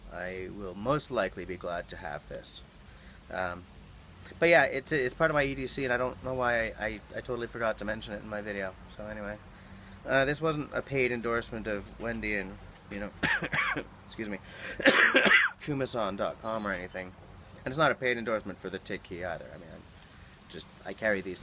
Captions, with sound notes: I will most likely be glad to have this. But yeah, it's it's part of my EDC and I don't know why I totally forgot to mention it in my video. So anyway this wasn't a paid endorsement of wendy and you know — [coughs] excuse me— kumason.com or anything, and it's not a paid endorsement for The Tick Key either. I carry these